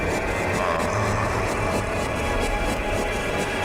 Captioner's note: Evan groaning